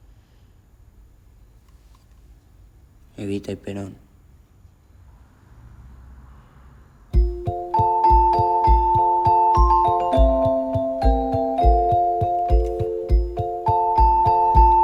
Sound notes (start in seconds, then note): 3.3 Carlitos speaks in foreign language; 7.1 playful instrumental music